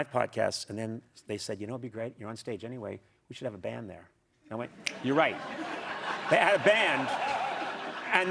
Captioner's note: cheers and applause